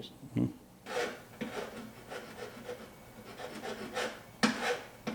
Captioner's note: file scraping